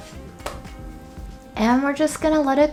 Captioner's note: pancake slaps